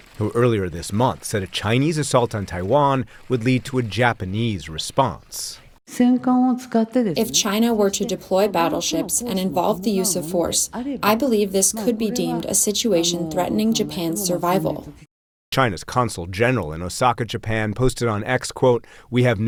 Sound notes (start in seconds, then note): 7.7 through translator